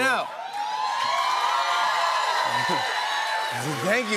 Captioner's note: cheers and applause